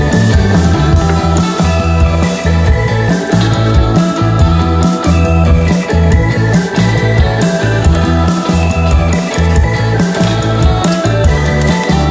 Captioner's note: boil broccoli. Boiling sound in the background